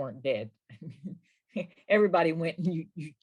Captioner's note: laughs